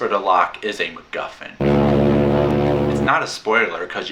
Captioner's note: alarm